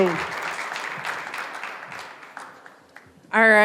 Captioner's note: applause